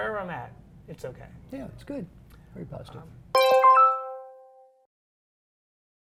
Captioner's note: electronic_bell_sound